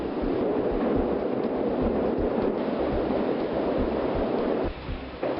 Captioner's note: aluminum banging loudly